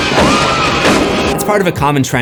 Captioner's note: screams